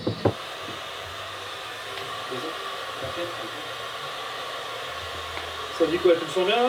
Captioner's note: sound of a hairdryer